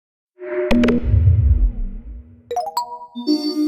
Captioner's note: logo chiming